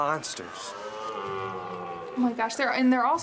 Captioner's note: stag bellowing